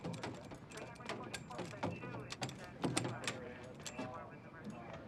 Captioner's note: officers chattering